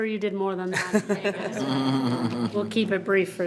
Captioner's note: members laughing